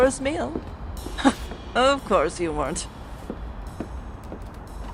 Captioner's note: chuckles